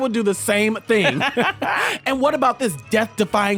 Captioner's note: laughter